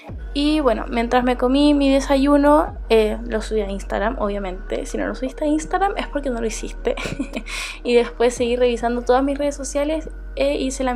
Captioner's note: laughs